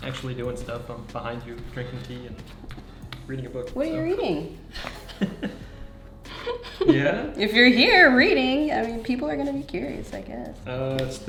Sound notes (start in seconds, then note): 4.8 chuckles